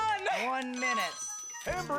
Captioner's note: phone rings